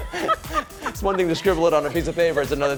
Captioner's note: laughter